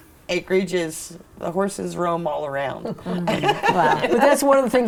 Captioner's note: laughing